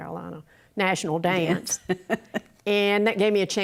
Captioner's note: laughs